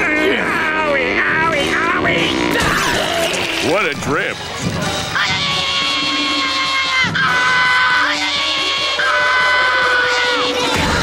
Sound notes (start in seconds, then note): 5.1 screaming